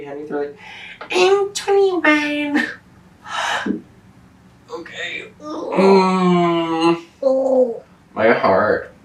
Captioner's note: groans